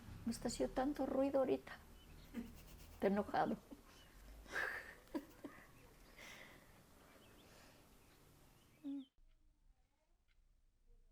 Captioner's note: laughs